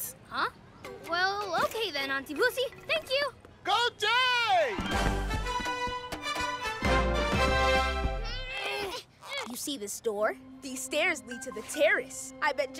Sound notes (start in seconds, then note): 8.3 groaning